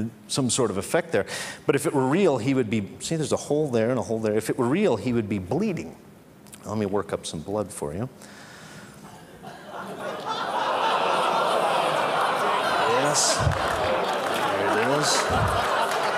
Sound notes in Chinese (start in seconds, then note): 9.2 Laughter; 9.2 笑聲